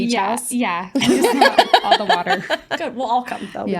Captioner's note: laughing